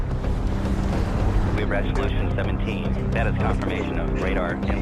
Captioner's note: air whoshing